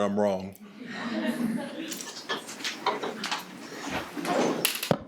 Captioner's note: attendees laughing